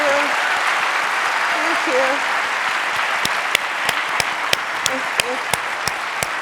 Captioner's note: audience applauding